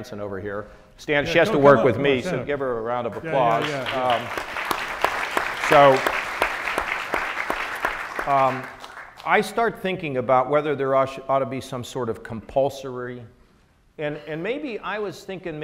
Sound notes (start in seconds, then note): 3.0 audience applauds